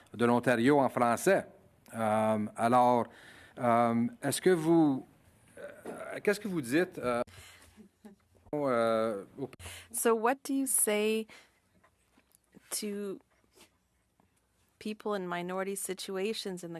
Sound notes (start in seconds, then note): 10.1 speaking French